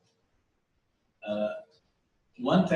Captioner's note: pause